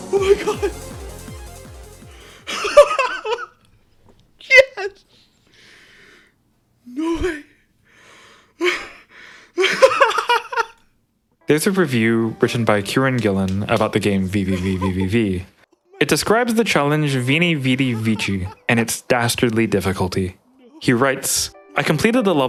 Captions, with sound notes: Oh my god... [more insane laughter] Yes! No way... [more insane laughter] There's a review written by Kieron Gillan about the game VVVVVVV. It describes the challenge Vini Vidi Vici and its dastardly difficulty. He writes, "I completed the